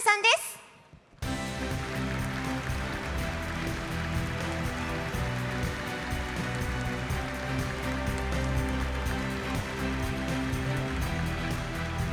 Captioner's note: applause